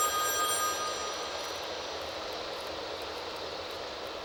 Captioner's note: phone ringing